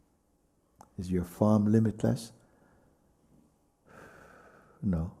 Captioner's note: exhales